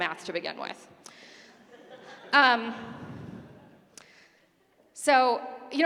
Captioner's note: laughter